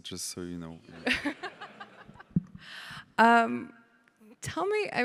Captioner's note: everybody laughing